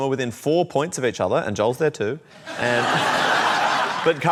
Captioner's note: laughter